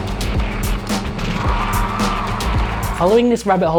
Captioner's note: upbeat music; crowd cheers